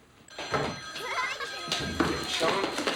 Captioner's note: telephone ringing; laughing